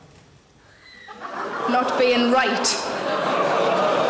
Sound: audience groans

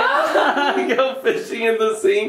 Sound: people exclaiming

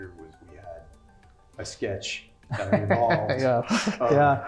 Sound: laugh

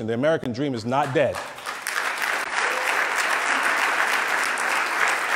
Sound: loud clapping

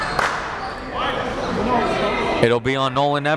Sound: clapping

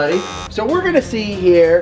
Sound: buzzer sounds

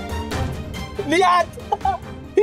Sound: speaks Japanese

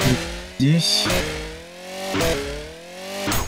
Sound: goofy chainsaw; very goofy chainsaw

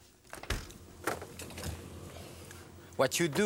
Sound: freezer opening

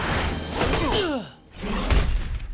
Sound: grunting

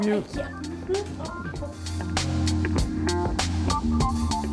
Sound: confused grumbling

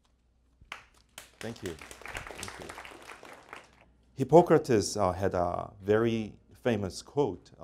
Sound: applause

